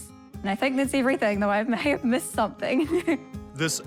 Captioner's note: chuckles